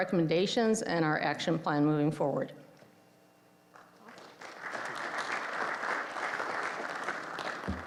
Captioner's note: applause